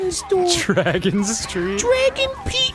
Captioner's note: giggling